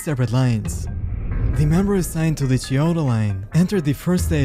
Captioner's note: air whoosh